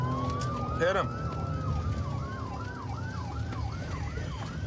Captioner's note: sirens wailing